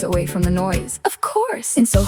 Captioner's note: female voice 1